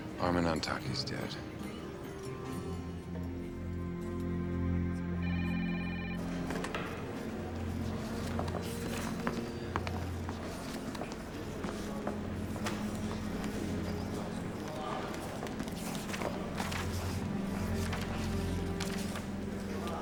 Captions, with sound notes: - Armen Antaki's dead. (phone ringing) (somber music)